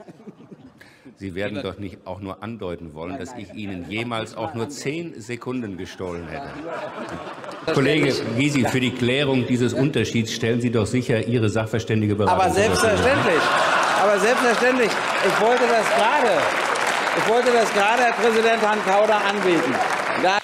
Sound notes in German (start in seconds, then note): 6.4 Gelächter; 15.4 Gelächter und Applaus